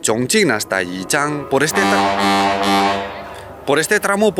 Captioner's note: edit: A very loud ship's horn sounds